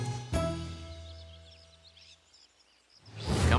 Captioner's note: birds chirping